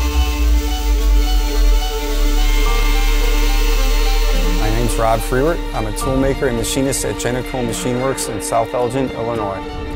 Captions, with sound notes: (orchestral music) (machine buzzing) - My name's Rob Frewert. I'm a toolmaker and machinist at Jeniko Machine Works in South Elgin, Illinois.